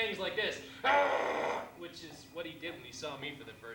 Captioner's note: growls